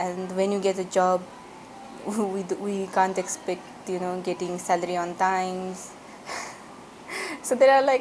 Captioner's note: laugh